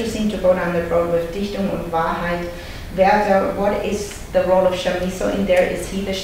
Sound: foreign language

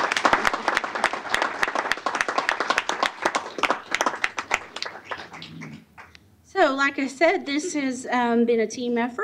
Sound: applause

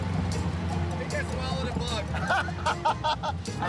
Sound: laughing

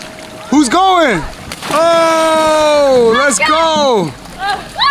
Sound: water splashes; kids screaming; water splashes

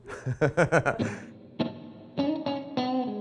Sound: laughing; guitar music

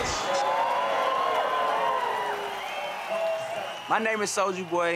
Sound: crowd cheering

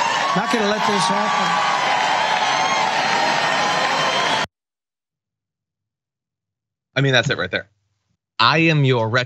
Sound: applause

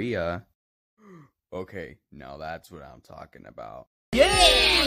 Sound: gasps

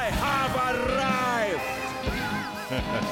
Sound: evil chuckle

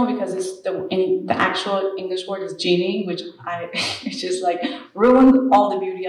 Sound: laughs

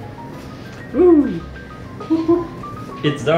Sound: laughs

